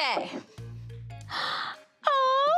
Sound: gasps

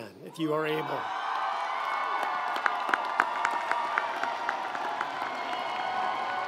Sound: audience cheering; audience applauding

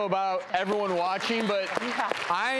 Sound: audience applauding

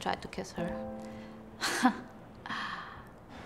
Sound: ironic sigh

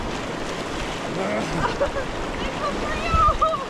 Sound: shivering from the glacier water

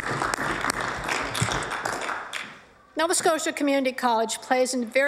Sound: applause

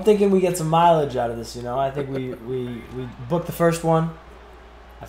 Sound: laugh

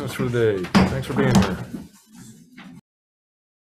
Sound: gavel bangs

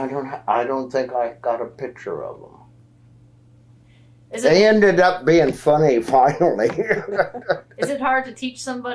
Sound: laughs

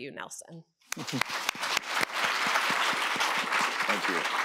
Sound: applause

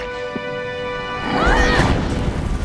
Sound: screaming

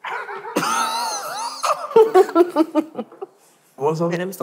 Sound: laughing

